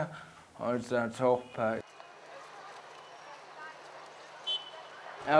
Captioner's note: street noises